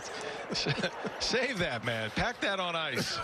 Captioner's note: laughing